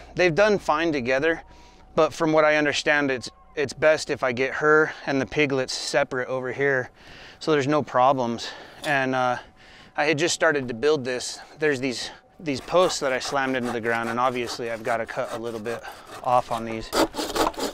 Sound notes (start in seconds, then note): 12.4 saw cutting